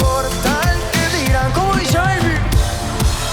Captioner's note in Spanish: en inglés